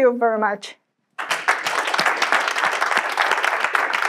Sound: clapping

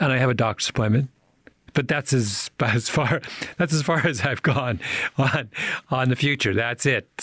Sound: chuckles

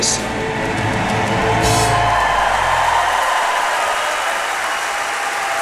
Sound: crowd cheering and applauding

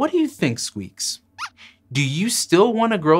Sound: squeaks squeaks

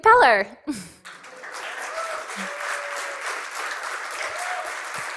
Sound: cheering and applause

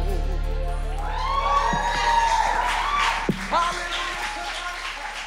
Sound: cheering, clapping

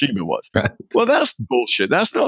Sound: laughing

